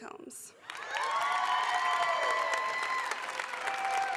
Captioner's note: applause